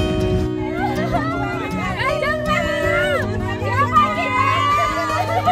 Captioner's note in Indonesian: teriakan warga antusias